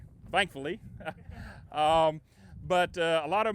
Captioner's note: laughing